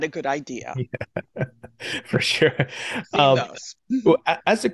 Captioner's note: chuckling